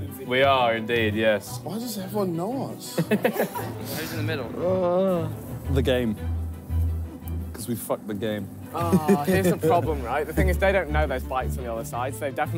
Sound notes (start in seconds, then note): 2.9 laughing